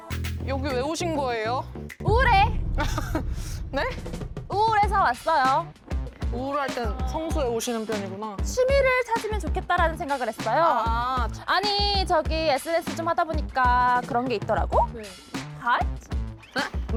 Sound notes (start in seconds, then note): 2.0 mood swing sound effect